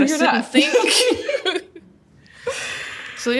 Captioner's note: both laughs